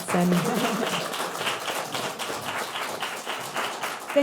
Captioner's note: audience clapping